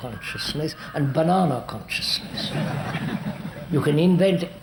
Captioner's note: laughter